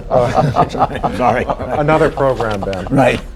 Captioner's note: laughter